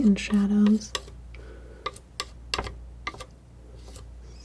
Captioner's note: tapping